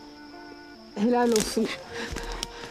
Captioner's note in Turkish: Çıtırtı sesi